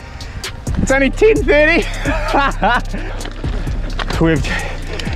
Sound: laughs

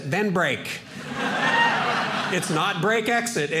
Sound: audience laughing

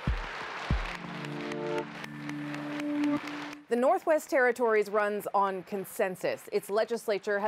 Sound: applause

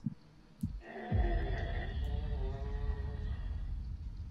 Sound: low groaning

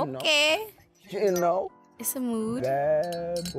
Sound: clinking glasses

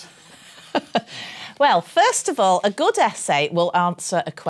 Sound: laughs

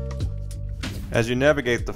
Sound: air whooshing

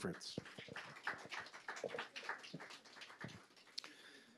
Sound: audience applauds

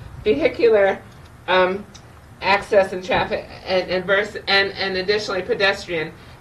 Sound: none

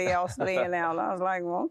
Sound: laughter

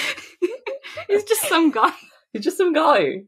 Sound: laughing

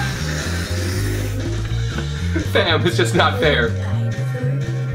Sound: making pretend roar noises

